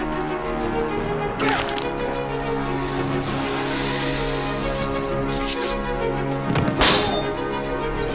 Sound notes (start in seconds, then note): 1.4 crack; 5.2 sword unsheathed; 6.5 metallic thwack